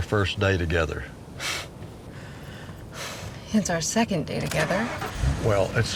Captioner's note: scoffs